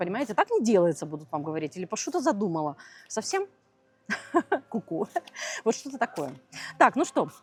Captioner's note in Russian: смех